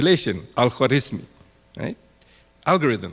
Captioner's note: speaking in foreign language